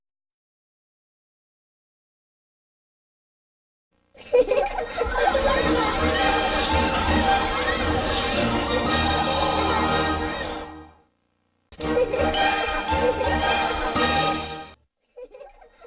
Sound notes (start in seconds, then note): 0.1 silence; 4.2 kids laughing as wondrous music plays; 11.7 laughing and music continuing